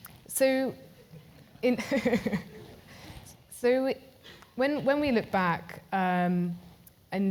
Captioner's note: laugh